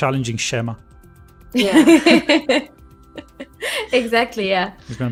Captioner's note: laughs